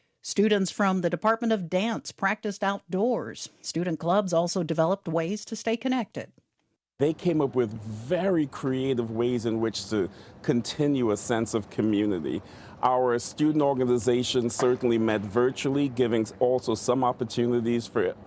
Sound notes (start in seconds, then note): none